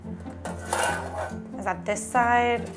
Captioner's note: grater clanking